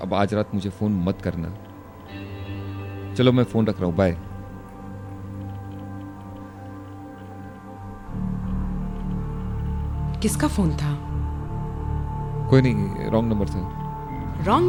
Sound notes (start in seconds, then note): none